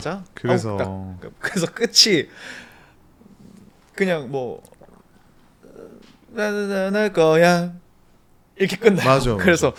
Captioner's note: hums